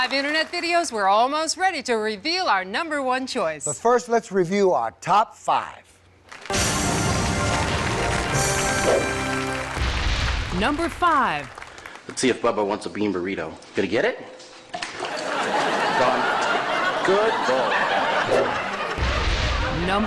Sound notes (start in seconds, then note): 6.5 upbeat music; 14.9 audience laughs